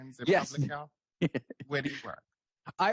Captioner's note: laughs